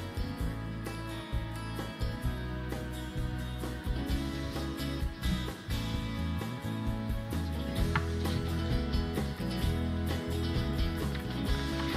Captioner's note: applause